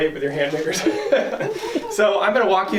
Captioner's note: laughs